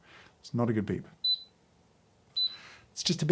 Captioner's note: scale beeping